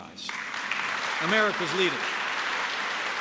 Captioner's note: applause